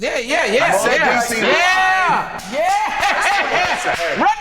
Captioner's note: laughs; overlapping chatter